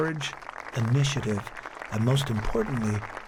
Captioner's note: spectators applauding